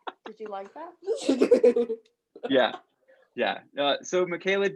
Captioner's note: laughter